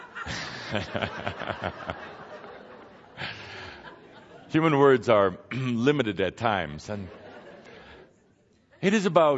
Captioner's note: more laughter